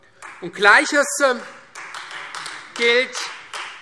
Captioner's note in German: Beifall Freie Demokraten